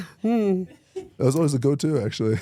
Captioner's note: laughs